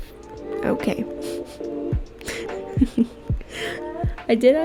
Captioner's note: still laughing at myself